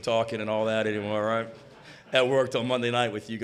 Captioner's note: audience laughs